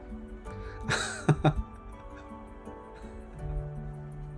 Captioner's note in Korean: 웃음